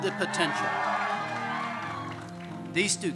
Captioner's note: medical school graduates cheers